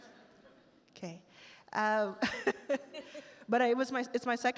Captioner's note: both laugh